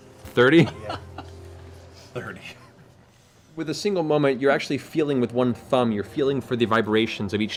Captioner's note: laughs